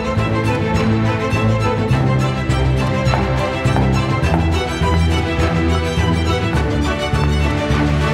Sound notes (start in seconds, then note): 2.8 footsteps on staircase